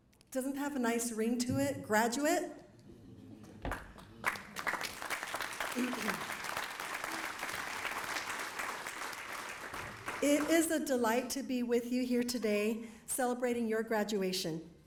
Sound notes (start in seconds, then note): 3.6 applause